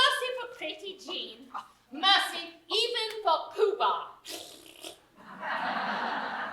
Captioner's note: blows raspberry